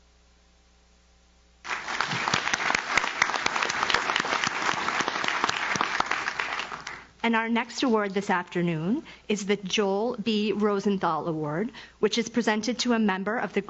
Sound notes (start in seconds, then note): 1.6 audience claps